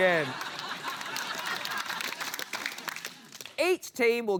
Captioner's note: laughter, applause